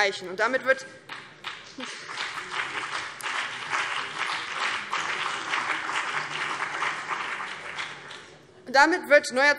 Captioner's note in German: Beifall BÜNDNIS 90/DIE GRÜNEN und vereinzelt CDU